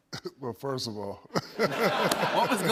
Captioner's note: laughter